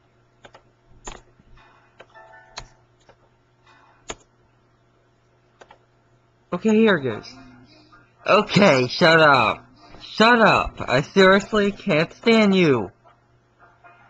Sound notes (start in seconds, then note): 2.0 keyboard and error sounds